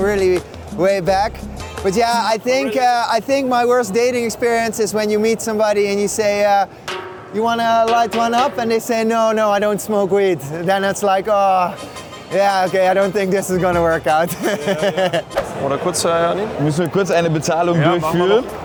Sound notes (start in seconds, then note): 14.2 laughs